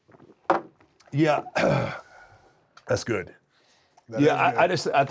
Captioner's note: cough